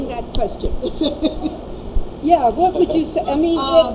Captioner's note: laughing